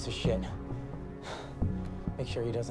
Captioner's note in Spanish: Jadeando